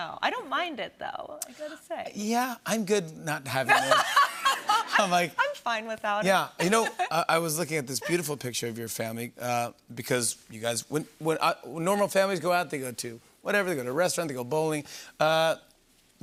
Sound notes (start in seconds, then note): 3.6 laughter